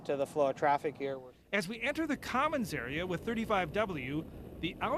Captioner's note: voiceover